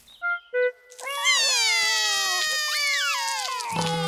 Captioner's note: both cry